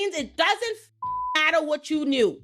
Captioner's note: beep